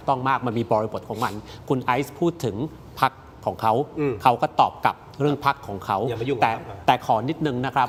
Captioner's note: takes a deep breath